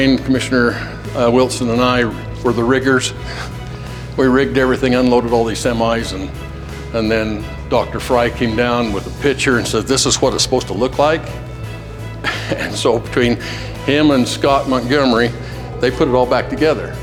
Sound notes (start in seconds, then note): 12.1 chuckling